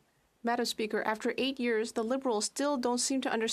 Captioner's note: speaking French